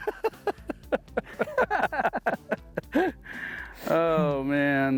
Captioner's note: both laughing